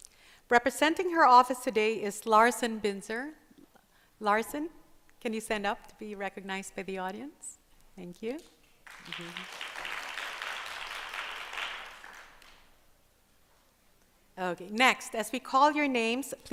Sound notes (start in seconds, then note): 8.8 applause